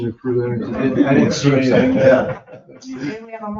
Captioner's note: people chatter and chuckle